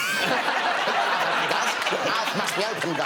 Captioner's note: all laughing